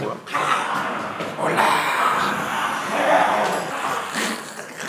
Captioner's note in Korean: 과장된 말투